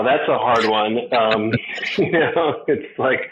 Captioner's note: chuckles